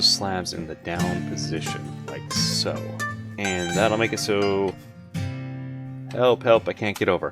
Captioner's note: with sarcasm